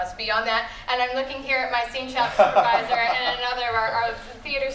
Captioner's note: laughter